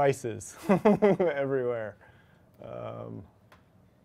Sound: chuckles

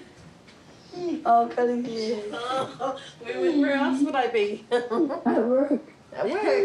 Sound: laughs

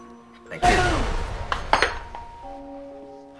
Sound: booming noise; gentle piano music

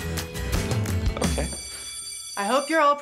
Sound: bell rings

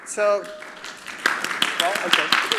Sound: applause

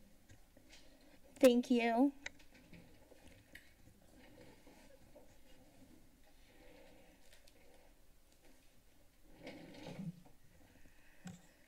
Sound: pause

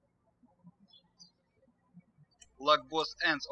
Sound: birds chirping

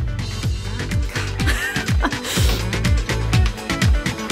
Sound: laugh

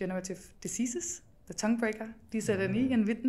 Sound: speaking German

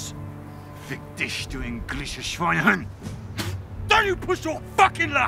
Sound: foreign language

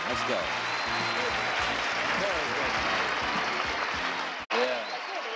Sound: applauding

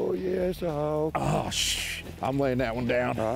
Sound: groaning

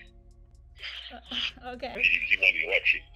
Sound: awkward laughing

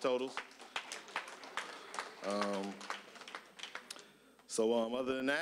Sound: applause

